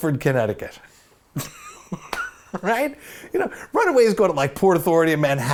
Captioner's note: laughs